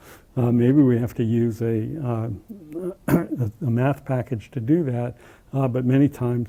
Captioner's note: cough